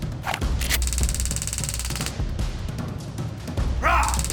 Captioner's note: taser buzzing; dramatic music; both moaning